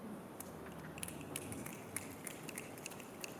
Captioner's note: clicking applause